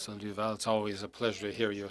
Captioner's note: speaking French